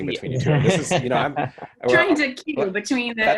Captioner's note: laughing